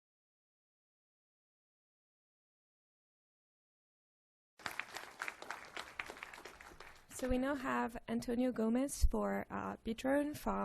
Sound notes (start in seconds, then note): 4.6 applause